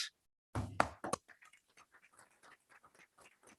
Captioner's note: group applauding